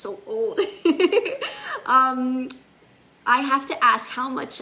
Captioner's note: laughs